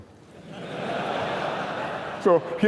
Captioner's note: laughter